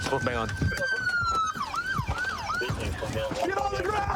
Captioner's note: sirens wailing